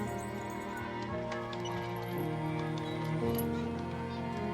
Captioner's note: chains rustling; swing squeaking